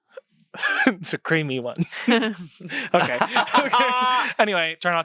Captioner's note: everyone laughs